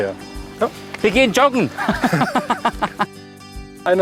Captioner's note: laughs